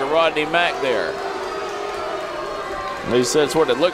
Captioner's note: crowd shouting boos